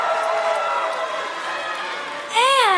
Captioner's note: cheering; applause; cheering